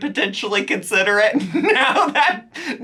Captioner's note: laughs